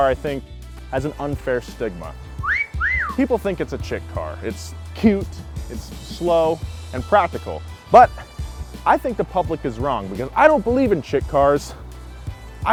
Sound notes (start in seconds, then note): 2.4 whistles